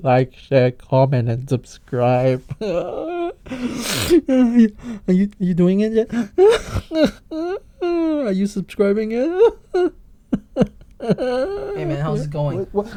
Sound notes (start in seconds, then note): 2.3 sniffle; 2.6 more fake crying; 6.2 fake crying; 9.4 more fake crying